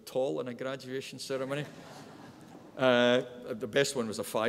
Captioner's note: audience laughs